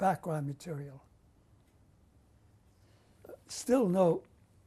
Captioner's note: pauses for 3 seconds